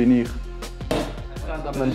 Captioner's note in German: Pfeil schlägt in Dartscheibe ein